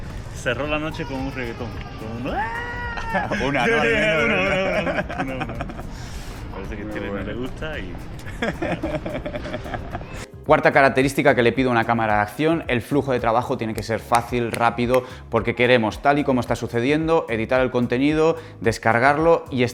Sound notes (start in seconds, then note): 6.0 laughs